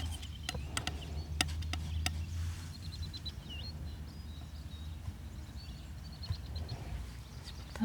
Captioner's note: birds chirping